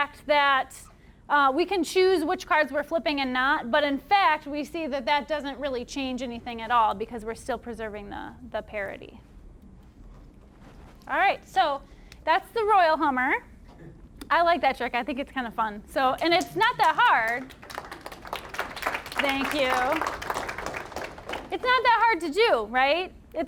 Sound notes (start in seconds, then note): 16.2 applause